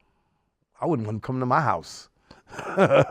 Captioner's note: laughs